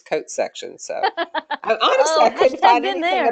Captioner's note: laughter